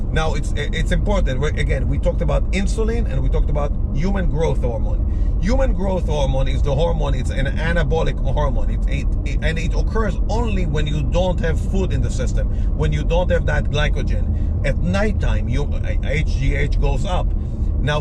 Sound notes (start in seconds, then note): none